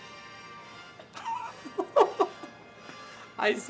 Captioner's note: laughs